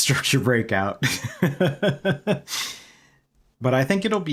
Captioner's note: laughter